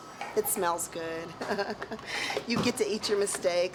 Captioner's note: chuckling